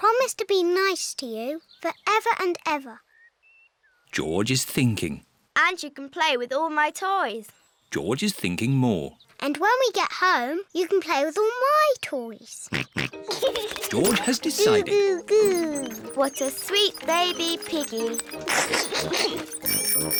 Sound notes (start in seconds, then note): 13.0 snorts and giggles; 19.1 giggles; 20.0 bicycle bells tinkle